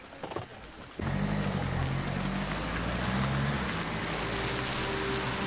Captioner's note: engine rumbling; somber instrumental music